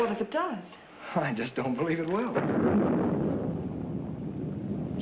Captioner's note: thunder